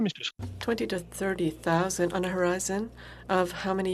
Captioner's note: speaking FRENCH